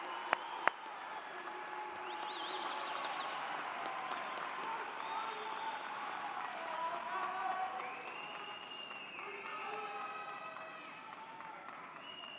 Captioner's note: cheers and Applause